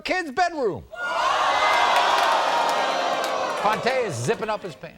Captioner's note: audience ohs